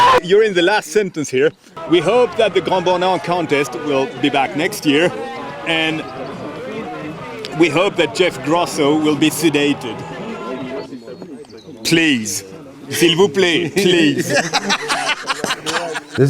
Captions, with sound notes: - You're in the last sentence here, we hope that Le Grand Bornard contest will be back next year and we hope that Jeff Grosso will be sedated. Please, (speaking in foreign language), please. (laughs)